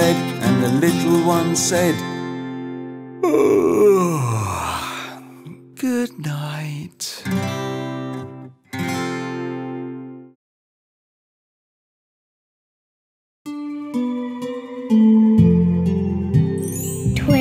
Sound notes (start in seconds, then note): 3.2 yawning; 13.5 tranquil guitar music